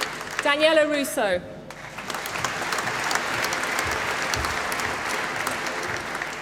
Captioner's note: applause